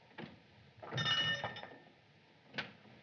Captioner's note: bell Rings